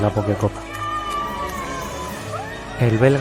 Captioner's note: cheering and applauding